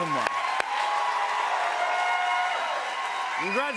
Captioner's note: cheers and applause continue